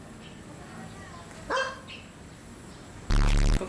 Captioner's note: woof